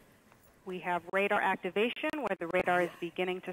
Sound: female Radio Voice

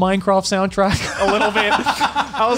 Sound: laughs

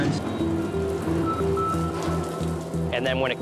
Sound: machine beeps

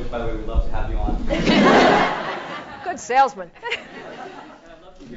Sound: laugh

